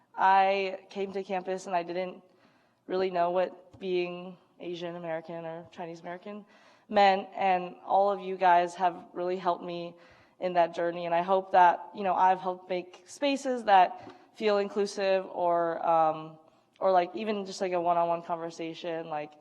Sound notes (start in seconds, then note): none